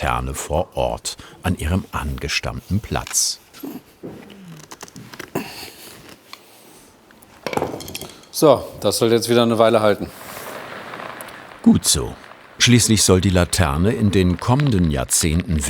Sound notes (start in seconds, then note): 4.1 moan